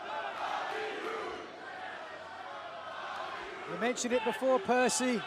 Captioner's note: crowd cheering